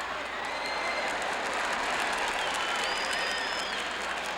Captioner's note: crowd cheering